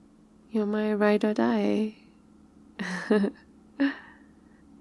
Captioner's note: laughs